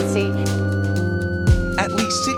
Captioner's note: siren wailing